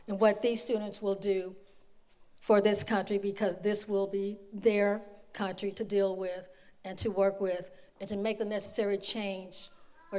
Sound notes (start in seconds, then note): none